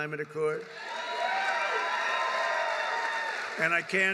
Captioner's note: applause